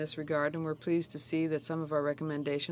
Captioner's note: speaking French